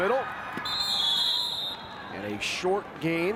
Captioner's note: whistle blows